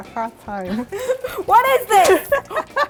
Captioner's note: laughing